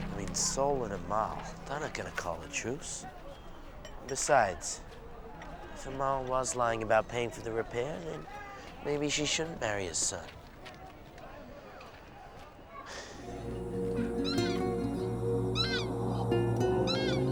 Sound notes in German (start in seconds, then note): 12.9 Seufzen; 15.5 Vögel krähen